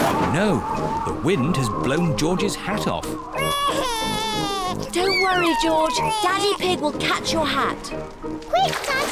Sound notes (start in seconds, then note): 3.4 cries